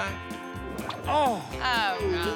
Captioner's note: groaning